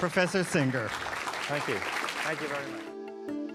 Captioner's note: audience applauding; soft music